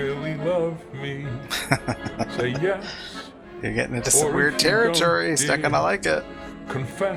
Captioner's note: laughing